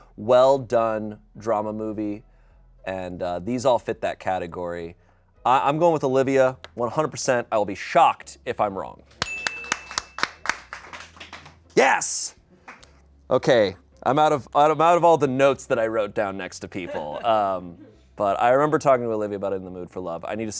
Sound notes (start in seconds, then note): 9.2 everyone applauds; 9.2 bell dings